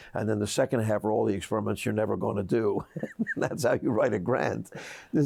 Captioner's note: laughs